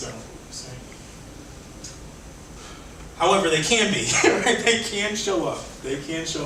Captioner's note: laughs